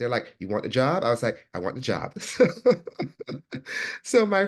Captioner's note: laughs